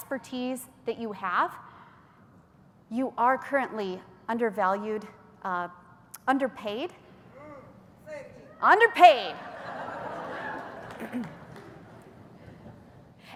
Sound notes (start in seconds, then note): 9.3 laughter; 9.8 cheers